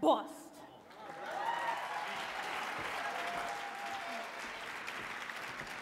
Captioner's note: audience clapping and cheering